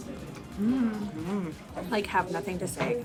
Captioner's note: humming